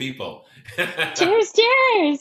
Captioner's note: laughs